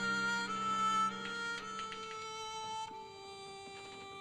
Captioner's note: typewriter chattering; melancholy music